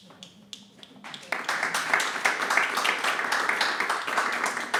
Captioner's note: audience applauding